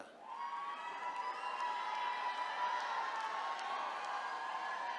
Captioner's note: attendees cheering